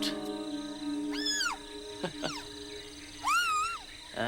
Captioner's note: laughing